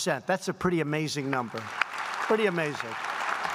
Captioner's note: applause